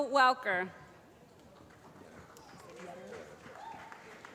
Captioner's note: applause